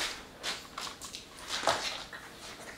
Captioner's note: crack